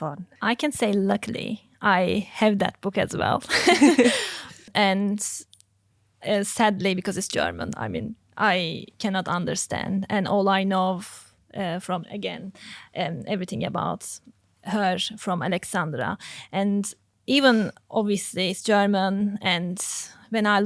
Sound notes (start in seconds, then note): 3.5 group laughing